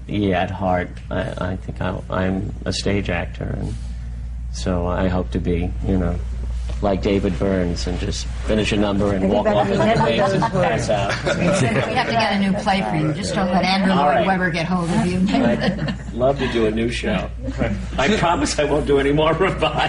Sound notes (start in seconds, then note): 9.5 laughter